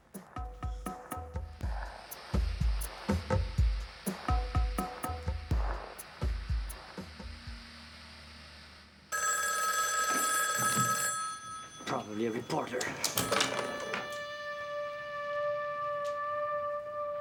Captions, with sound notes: (suspenseful music) (phone ringing) Probably a reporter. (somber music)